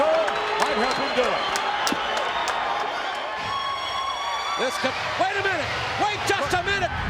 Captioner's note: applause